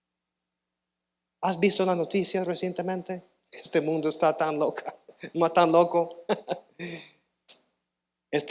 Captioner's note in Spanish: carraspeo